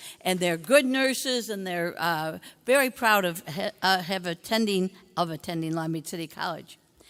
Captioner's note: none